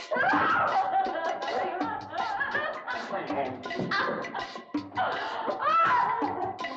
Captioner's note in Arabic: موسيقى إيقاعية متوترة; تصرخ وتتأوه